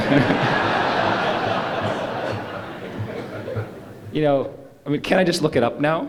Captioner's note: laughter